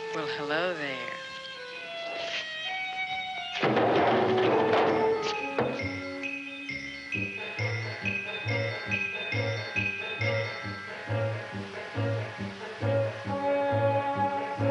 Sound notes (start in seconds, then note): 3.6 clattering; 5.5 thumping